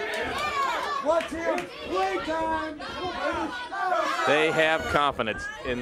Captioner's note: crowd chatter